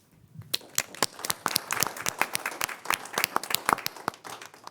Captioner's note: crowd applauding